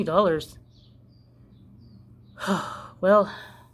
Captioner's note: sighing wooo